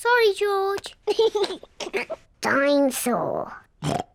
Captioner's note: laughs; oinks